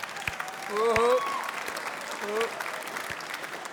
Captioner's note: applause